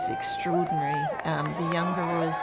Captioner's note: crowd cheering